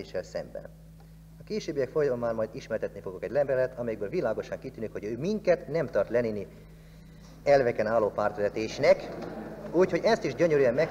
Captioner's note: rumble